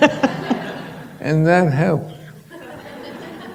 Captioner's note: laughter